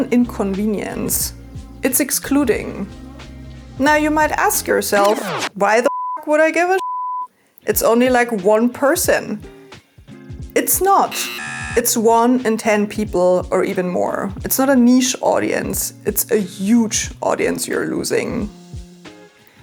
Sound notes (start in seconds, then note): 11.0 buzzer blasts